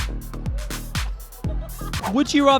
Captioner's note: laughs